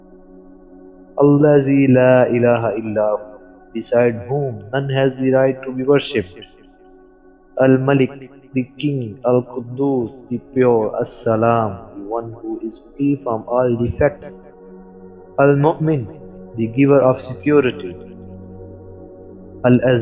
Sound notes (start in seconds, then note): 1.3 Arabic